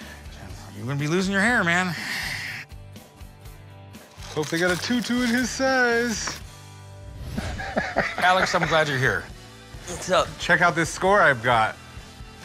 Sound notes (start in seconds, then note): 7.4 laughs